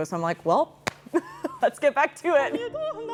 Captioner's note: laughs